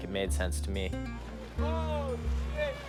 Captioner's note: shouts